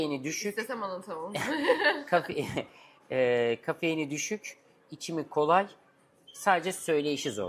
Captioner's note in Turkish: kahkaha